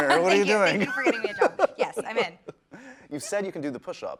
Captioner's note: laughs